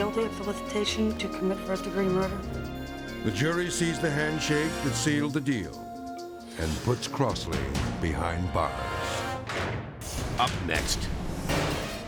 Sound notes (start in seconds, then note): 9.3 jail gate slams